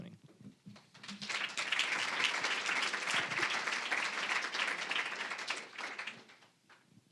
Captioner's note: applause